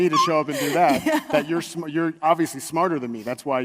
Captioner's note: laughs